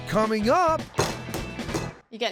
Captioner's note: pounding sound